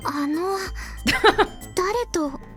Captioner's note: chuckles